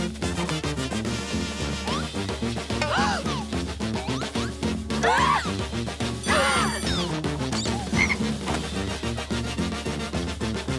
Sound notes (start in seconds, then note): 2.6 gasping; 4.7 gasping; 6.2 screaming